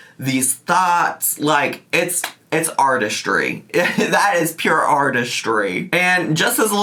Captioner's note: laughs